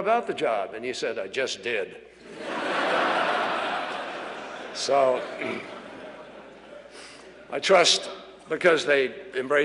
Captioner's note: laughter